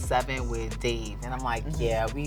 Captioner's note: laughing